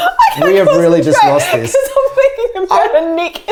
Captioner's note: laughing